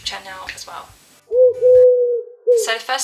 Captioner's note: pigeon noise